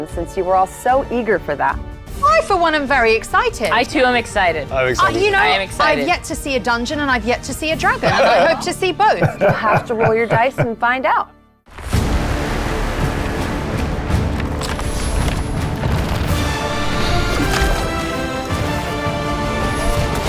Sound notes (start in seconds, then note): 12.0 ominous music; 14.3 pages rustling; 15.9 tree rumbling; 16.9 wing whooshes; 20.0 water burbling; 20.0 water splashes